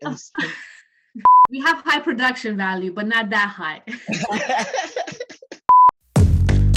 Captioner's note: laughter. Beep